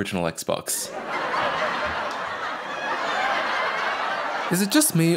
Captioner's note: audience laughing